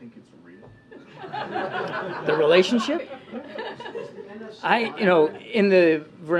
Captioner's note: laughter